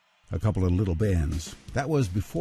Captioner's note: voiceover